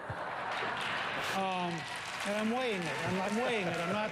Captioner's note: applause